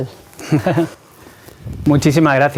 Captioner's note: laughter